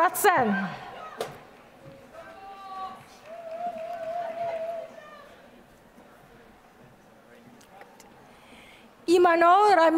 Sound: applause

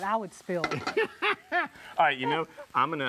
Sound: laughing

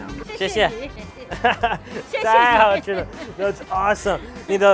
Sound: speaking in a foreign language

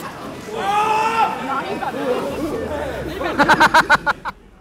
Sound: screams; laughing

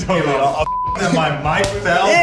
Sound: beep

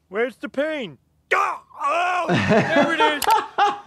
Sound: shouting, groaning; doctor laughing

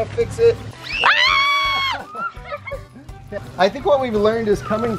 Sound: screaming

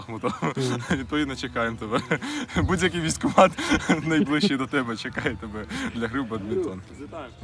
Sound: laughter

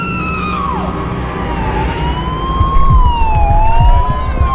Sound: screaming

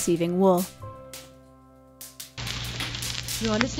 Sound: staticky radio broadcast, woman's voice

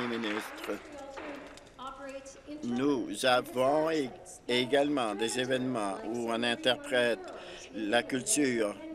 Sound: applause

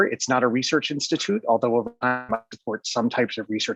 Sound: distorted audio

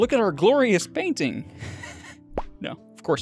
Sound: laughs

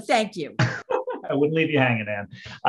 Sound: laughs

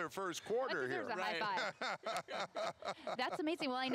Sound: laughter

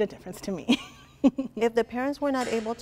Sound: laughing

